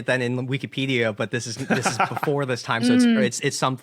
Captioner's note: laughs